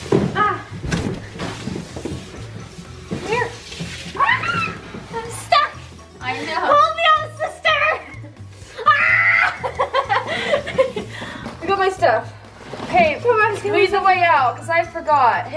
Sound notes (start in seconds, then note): 8.7 laughing